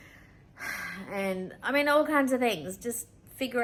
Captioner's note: sigh